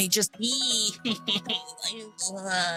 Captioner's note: crying